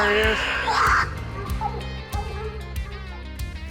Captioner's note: screeching stops